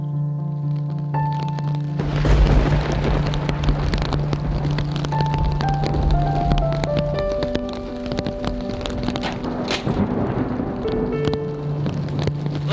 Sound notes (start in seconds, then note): 3.1 thunder booming; 6.5 rain falling